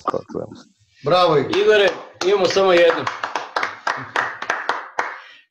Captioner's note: claps